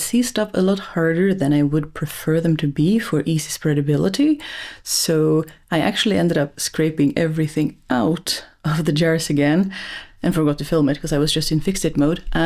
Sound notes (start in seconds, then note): none